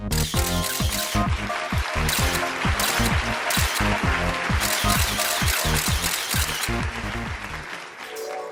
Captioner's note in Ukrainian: оплески